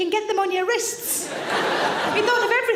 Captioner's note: audience laughing